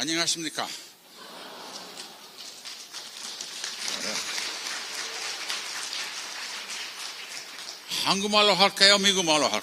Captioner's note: applause; 박수